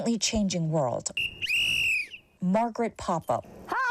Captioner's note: whistle blowing